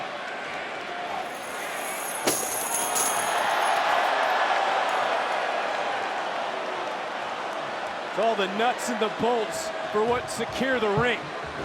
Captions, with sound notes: (objects clattering) (crowd cheers) All the nuts and the bolts. For what? Secure the ring.